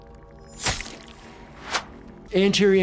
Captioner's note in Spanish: la sangre chapotea; cuchillo silba